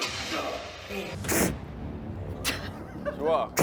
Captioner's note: pfft!